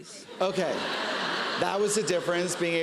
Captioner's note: laughter